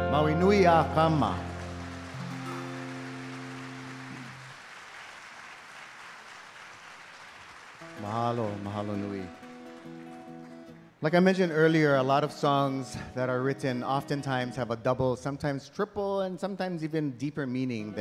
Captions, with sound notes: [speaking in Hawaiian] [audience applauding] [speaking in Hawaiian] Like I mentioned earlier, a lot of songs that are written oftentimes have a double, sometimes triple and sometimes even deeper meaning